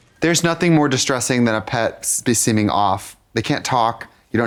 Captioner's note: none